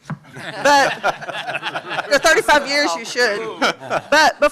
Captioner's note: laughter